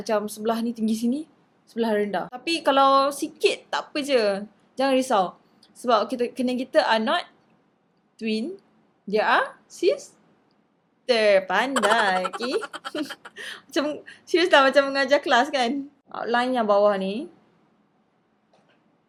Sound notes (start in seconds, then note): 11.7 laugh